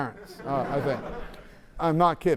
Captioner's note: laughter